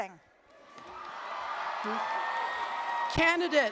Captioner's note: applause, cheering